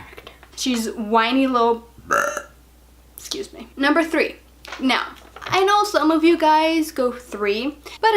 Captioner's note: burps